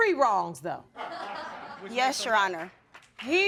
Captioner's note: audience laughs